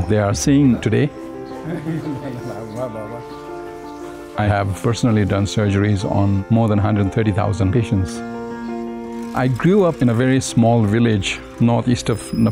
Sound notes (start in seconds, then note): 1.6 man laughing